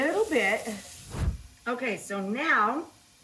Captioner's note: scene whooshing